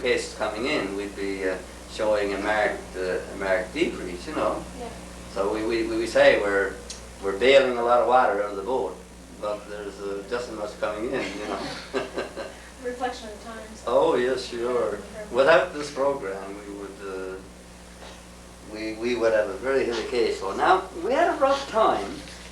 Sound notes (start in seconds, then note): 11.1 laughter